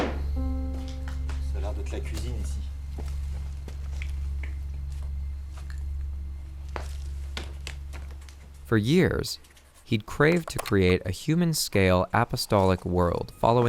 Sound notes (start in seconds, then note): 1.5 speaks French